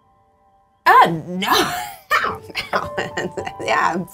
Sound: scoff

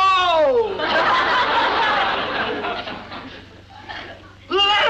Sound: audience laughs

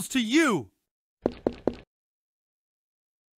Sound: footsteps

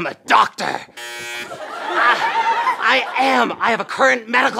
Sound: buzzing

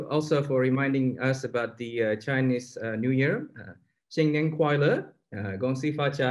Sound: foreign Language

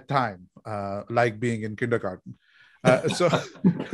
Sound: laughing

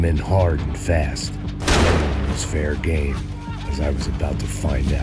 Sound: gun blasting

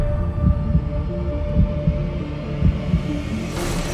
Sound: heart pounding

